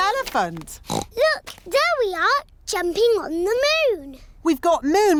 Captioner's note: oinks